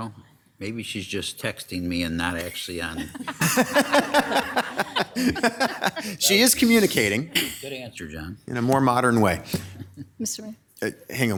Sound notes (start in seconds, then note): 0.0 person whispering; 2.9 members laughing